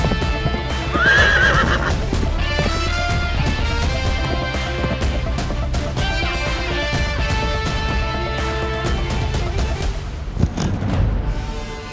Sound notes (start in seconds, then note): 0.6 horse neighing